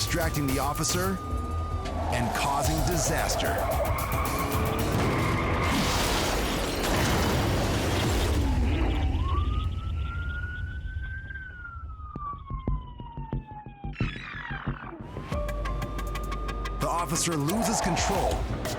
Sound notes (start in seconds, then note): 4.0 glass shattering; 4.0 tires squealing; 10.5 siren blaring